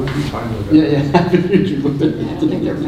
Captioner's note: laughs